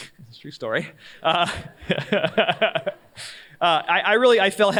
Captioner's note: laughs